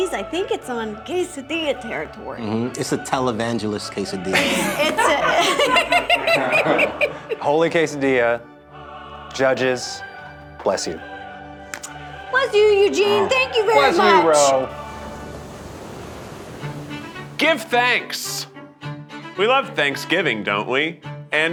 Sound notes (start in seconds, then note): 4.3 everyone laughing; 14.7 waves crashing; 16.7 cheerful orchestral music